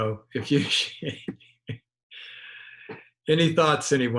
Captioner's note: chuckles